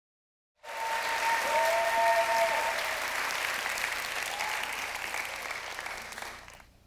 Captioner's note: applause